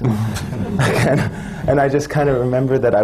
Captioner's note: laughter